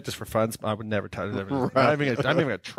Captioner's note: speaking faintly